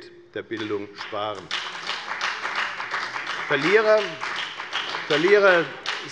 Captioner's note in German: Beifall bei der FDP